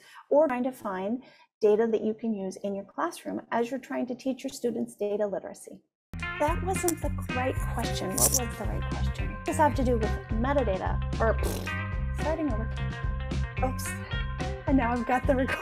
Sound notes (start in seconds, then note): 11.4 sighs; 14.2 cheerful music